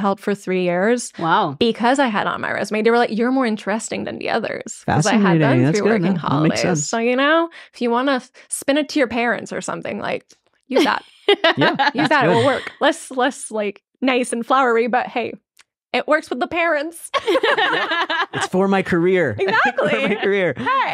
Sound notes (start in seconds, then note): 10.7 laughing; 17.2 laughing